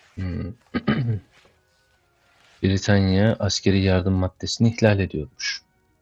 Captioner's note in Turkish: boğazını temizler